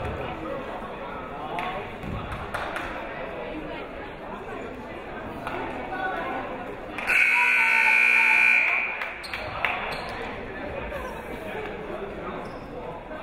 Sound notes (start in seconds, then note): 0.1 people talking in the crowd; 2.5 clapping; 4.6 people talking in the crowd; 7.1 buzzer ringing; 9.3 people talking in the crowd